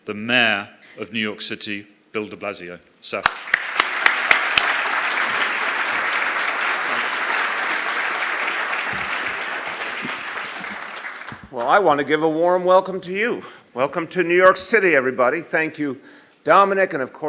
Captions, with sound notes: welcome to our D hosts here in New York City, the mayor of New York City, Bill de Blasio. (Applause) >>While I want to give a warm welcome to you.